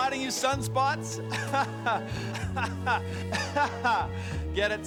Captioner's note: laughs